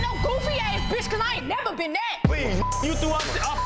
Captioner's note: beeps